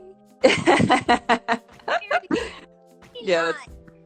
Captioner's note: laughing